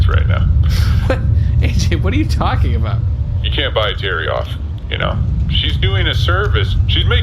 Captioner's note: laughing